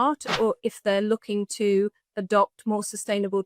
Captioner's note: graphic whooshes